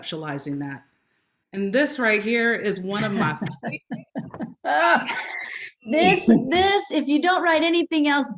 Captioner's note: laughter